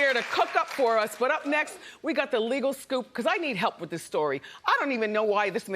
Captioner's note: applause